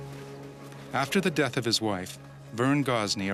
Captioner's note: voiceover